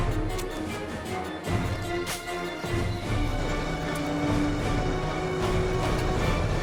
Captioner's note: dramatic music; gun clicks